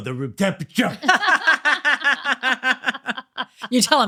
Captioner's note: laughing